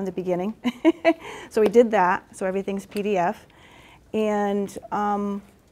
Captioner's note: chuckles